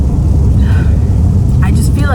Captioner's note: sigh